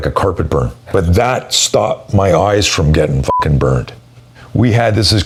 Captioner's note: beep